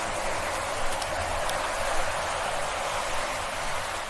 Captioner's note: water gurgling